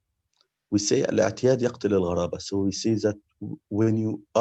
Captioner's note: speaking in Arabic